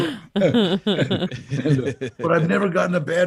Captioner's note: laughing